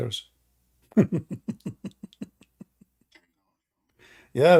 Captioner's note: Ketawa